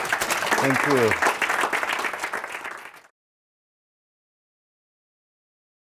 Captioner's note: audience applauds